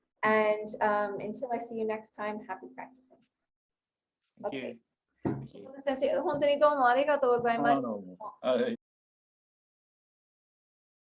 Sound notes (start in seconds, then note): 6.0 speak in Japanese